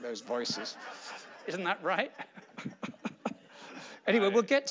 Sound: laughing

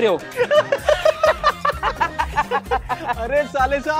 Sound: laughing

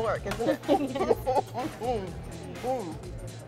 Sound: laughs

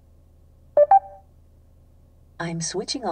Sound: car beeps

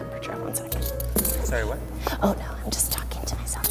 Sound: voiceover

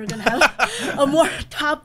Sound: laughing

